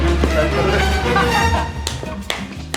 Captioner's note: laughs